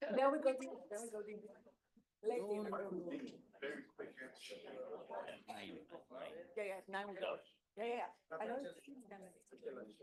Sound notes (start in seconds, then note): 2.6 group chattering